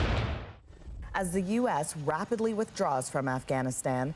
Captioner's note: explosion